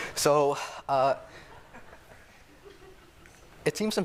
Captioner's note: laughter